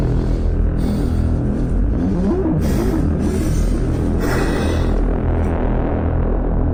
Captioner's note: Commander Gray panting; eerie atmospheric music